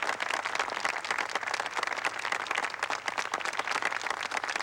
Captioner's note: applause in background